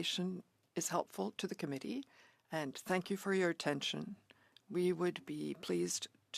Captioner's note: speaking French